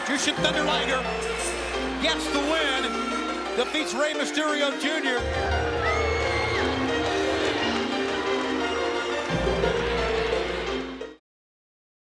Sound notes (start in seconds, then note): 6.1 crowd cheering; 6.1 light music